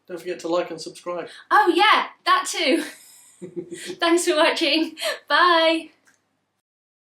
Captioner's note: laughs